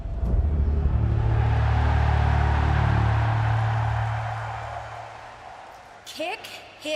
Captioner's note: cheers and applause